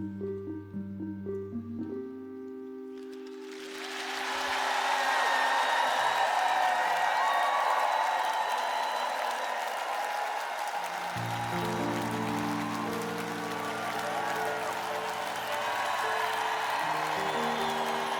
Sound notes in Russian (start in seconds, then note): 2.1 ликование; 6.0 аплодисменты; 14.0 ликование; 17.9 аплодисменты